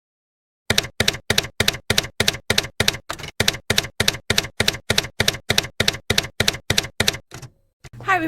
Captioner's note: typewriter keys clacking